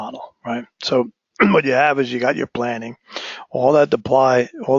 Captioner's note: cough